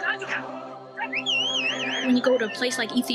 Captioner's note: whistle shrills